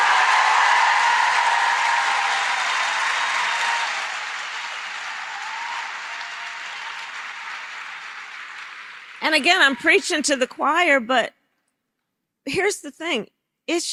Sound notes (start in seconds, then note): 0.0 applause